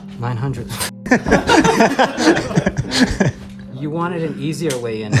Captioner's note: all laughing